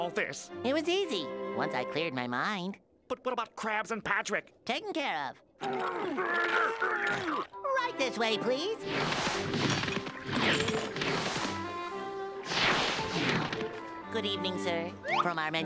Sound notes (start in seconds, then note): 5.6 grunting